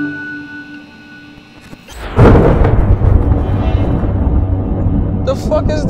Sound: computer sounds; lightning - beam sound

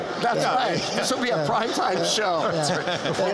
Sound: laughter

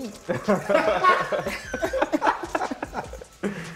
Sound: laughter

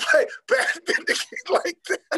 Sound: laughing

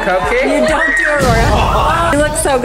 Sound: thunders

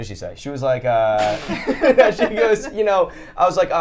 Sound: all laughing

